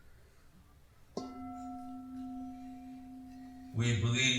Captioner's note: gong of a Bell